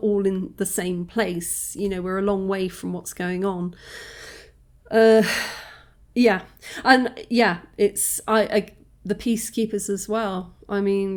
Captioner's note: sigh